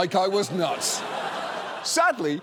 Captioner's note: audience laughs